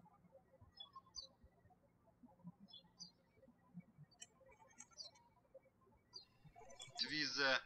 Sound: birds chirping

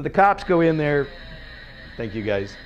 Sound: moaning

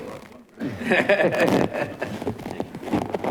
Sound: chuckling

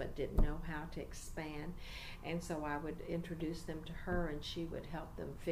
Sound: resumes tapping on table

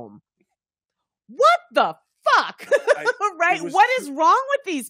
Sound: laughing

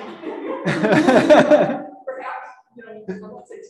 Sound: all giggling

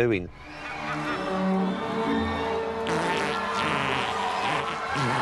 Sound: laughing

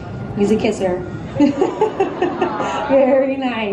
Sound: laughing

